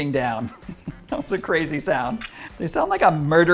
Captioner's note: chuckles